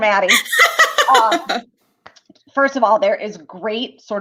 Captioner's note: laughter